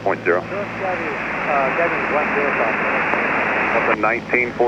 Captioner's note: scrambled voice